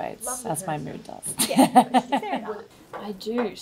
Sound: laughs

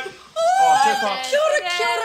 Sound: screams

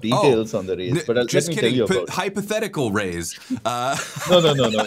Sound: laughter

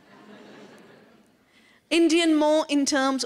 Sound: laughter

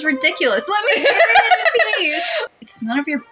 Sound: cackle

